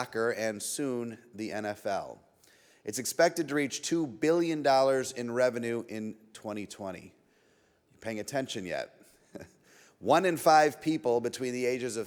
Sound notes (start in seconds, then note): 9.3 chuckles